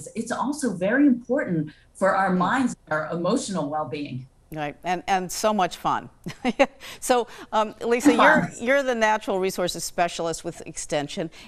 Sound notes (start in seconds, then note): 8.0 chuckles